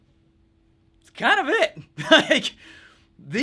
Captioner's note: laughs